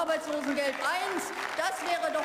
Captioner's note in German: Beifall